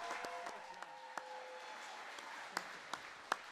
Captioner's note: applause